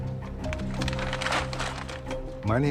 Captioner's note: crinkling